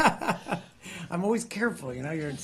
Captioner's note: laughter